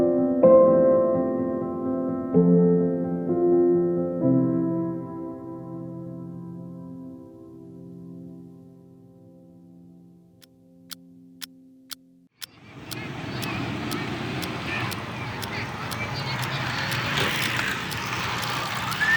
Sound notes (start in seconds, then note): 12.4 clock ticking; 12.5 sea birds calling